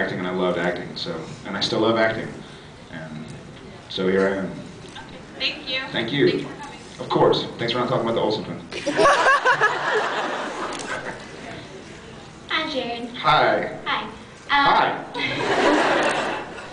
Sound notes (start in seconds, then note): 8.8 laughs; 15.2 laughs